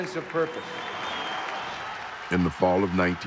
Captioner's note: crowd cheering